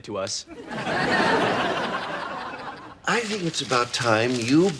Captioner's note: audience laughs